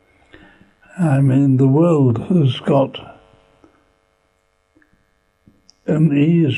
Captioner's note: pauses for 3 seconds